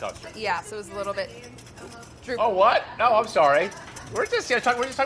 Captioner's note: murmuring in dissent